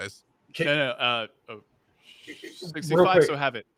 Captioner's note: murmurs